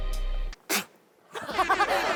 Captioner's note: pfft!